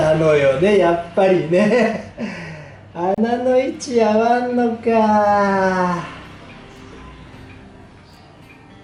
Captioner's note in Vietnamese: cười lớn